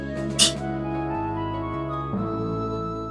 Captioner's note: scoffs